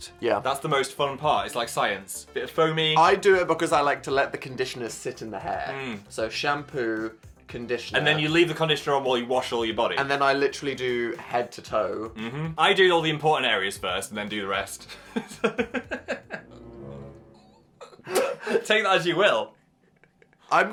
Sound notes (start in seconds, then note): 15.0 laughing; 16.3 tense music